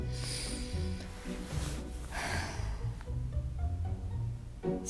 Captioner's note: sighing